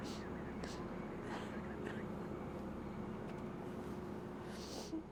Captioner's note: whispers; Sarah sobbing